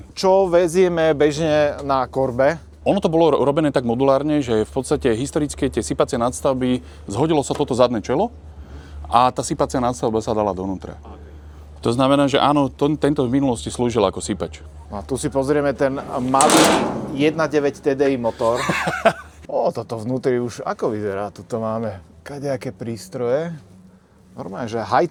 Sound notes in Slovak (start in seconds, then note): 19.0 smiech